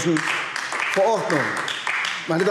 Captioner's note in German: Beifall AfD